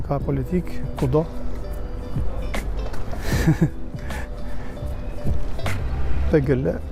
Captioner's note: laughter